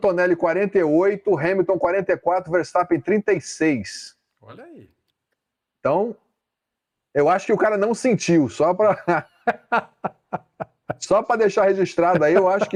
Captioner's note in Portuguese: risadas